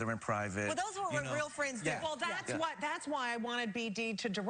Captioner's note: laughs